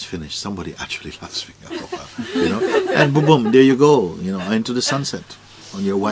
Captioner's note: γέλια